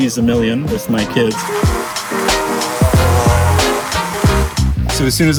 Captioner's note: bees buzzing